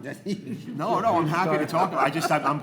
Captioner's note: laughing; speaks faintly